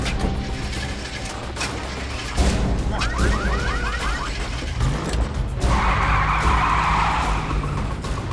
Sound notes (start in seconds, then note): 1.8 ignition sputtering; 4.7 engine starts; 5.6 tires screeching